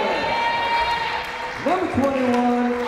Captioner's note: crowd cheering